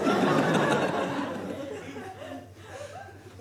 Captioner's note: audience laughs